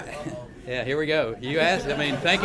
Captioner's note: laughter